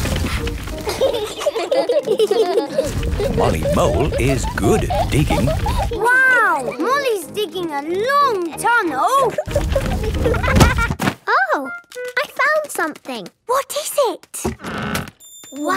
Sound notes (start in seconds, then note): 9.4 thuds